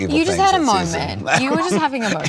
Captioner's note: laughs